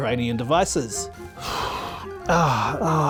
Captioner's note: presenter exhales deeply